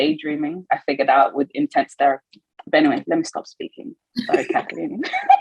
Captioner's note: laughs